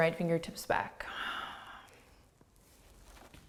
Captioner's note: exhaling